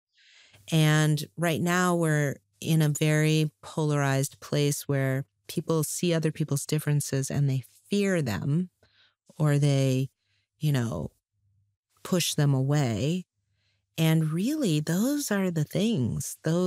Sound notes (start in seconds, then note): none